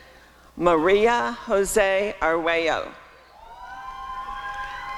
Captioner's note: applause and cheering